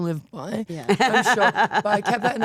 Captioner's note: Stephanie laughing